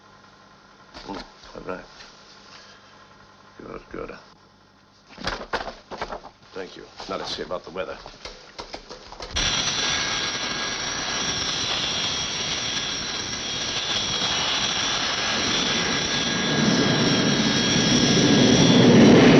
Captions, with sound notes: Good, good. Thank you. Now let's see about the weather. (plane whirring)